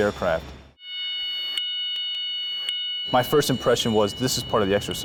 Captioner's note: klaxon horn